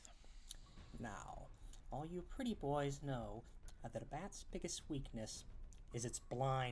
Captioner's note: licks lips